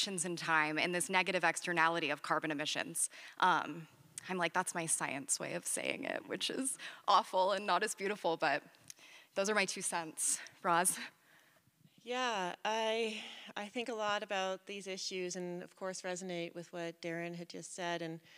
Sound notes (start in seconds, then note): none